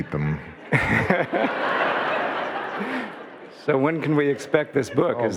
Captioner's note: audience laughing